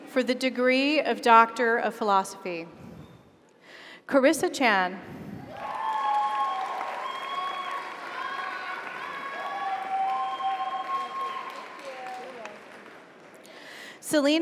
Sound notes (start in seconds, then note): 5.5 audience cheers; 5.5 audience applauds